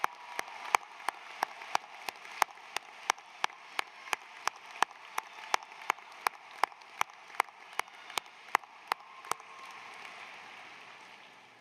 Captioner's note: applause